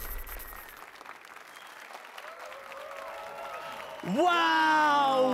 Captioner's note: applause and cheers